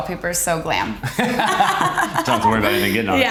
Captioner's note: Kate and Justin laughing